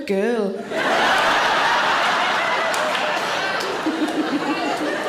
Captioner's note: audience laughter